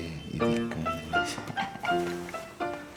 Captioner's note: both giggling